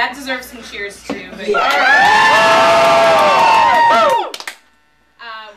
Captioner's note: cheering